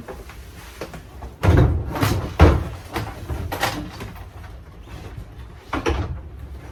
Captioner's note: clattering and light banging and sliding noises